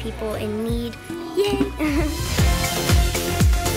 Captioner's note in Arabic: يضحك